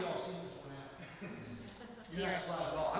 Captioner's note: laughs